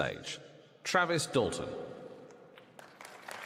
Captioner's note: applause